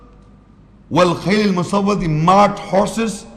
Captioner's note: Arabic